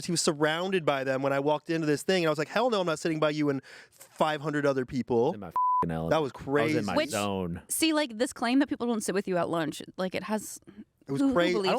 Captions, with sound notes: He was surrounded by them when I walked into this thing, and I was like hell no, I'm not sitting by you and 500 other people. - In my (beep) element. I was in my zone. - That was crazy. - See, like this claim that people don't sit with you at lunch, like it has, who believes this?